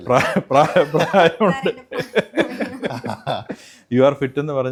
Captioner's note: laughter